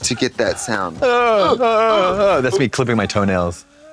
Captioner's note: Trixie groaning; Katya grunting